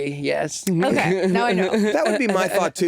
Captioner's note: Jinkx laughing